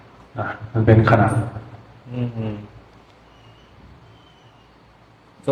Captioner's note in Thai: เสียงหัวเราะ